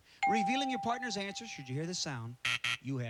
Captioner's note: buzzer